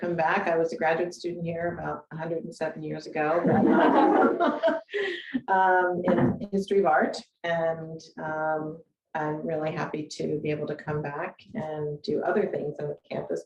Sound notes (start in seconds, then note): 3.5 audience laughing